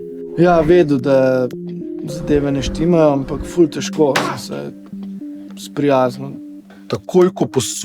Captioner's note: bang on the table